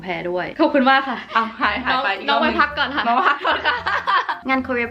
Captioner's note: laughing